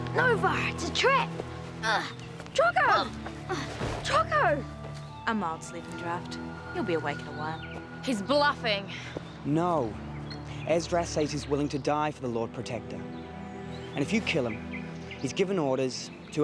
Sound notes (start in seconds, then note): 1.9 crying out; 3.7 thuds